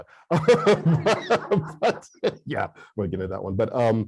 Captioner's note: laughs